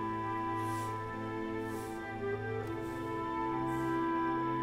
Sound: leaves rustling

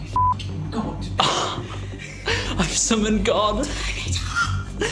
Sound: whispers; giggling

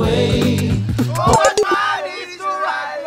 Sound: phone dies down

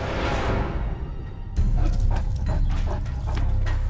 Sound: dog huffing

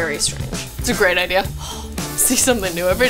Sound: sighs

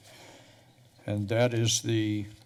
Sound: pause

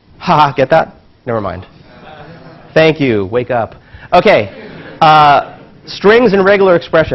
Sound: laugh

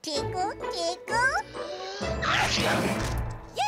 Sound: inhaling; all cheering

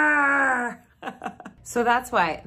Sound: laughs

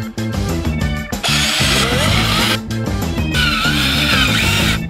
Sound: drilling

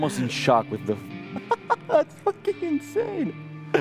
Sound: laughs

